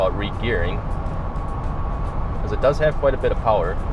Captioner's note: car engine roaring